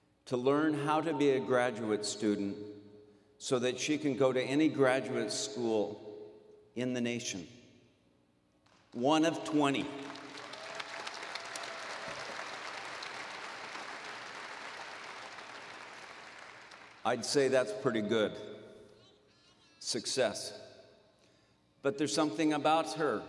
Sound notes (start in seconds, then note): 11.4 applause